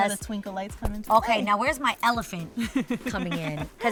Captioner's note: laughs